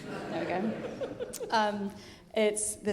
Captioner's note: audience laughing